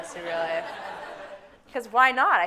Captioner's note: audience laughing